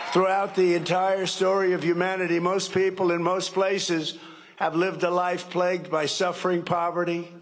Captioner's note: cheering and applause